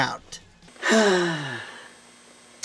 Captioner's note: sighs happily